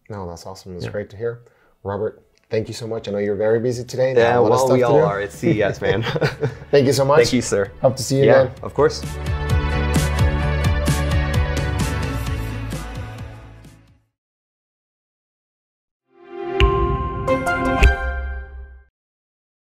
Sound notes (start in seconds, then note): 4.7 both laugh; 9.3 bright upbeat music